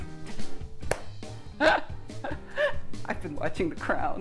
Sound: laughs

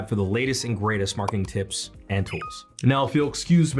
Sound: bell beeps

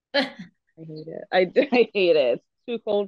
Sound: laughs

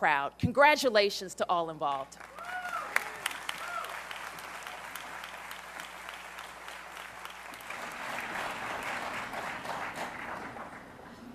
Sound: applause

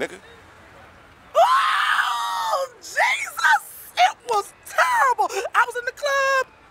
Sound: woman screams

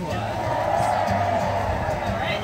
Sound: cheers and applause from the background

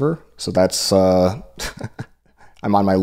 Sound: laughs

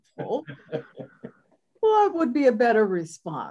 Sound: laughs

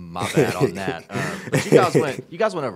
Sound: laughs

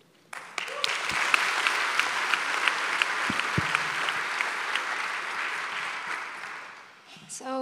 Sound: applause

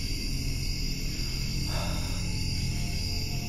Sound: exhales

